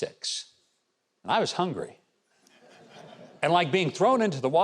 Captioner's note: audience laughing